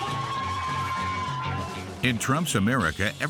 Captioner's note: hollers